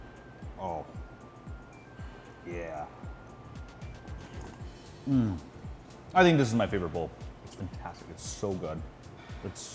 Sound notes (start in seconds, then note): 5.0 moans